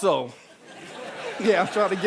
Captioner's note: audience laughing